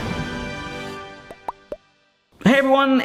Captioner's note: upbeat music; logo popping